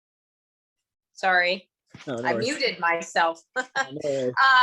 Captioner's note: laughs